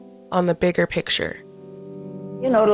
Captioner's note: soundbite of archived recording